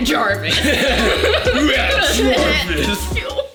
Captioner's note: both laughing